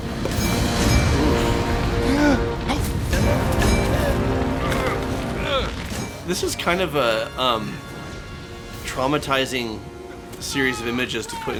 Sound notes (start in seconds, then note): 2.6 gasps